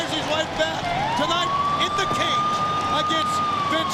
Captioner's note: siren wails